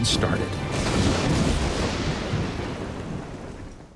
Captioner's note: lightning crashes